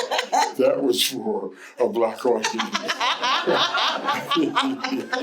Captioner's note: laughter